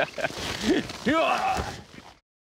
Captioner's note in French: rires; efforts